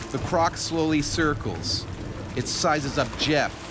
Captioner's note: voiceover